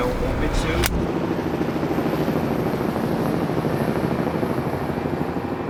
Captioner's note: plane engine roaring